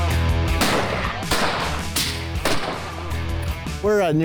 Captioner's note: rifles banging